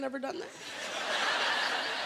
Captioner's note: laughter